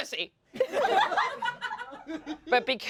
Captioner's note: everyone laughs